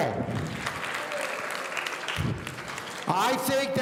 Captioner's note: audience applauding